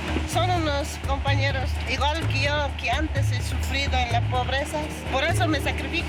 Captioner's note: speaking in foreign language